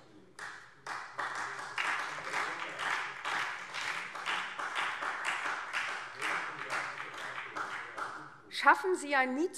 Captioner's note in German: Beifall SPD und DIE LINKE